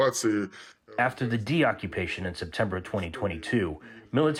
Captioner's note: through translator